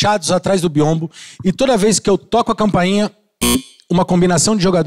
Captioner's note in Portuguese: campainha